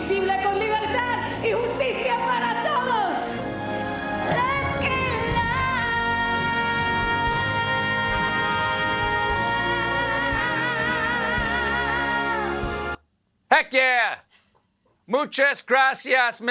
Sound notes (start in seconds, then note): 4.6 speaking spanish